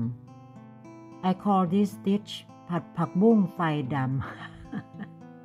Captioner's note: laugh